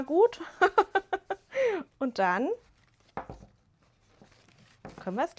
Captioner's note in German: gelächter